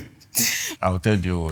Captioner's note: laughs